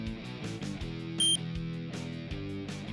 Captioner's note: one short beep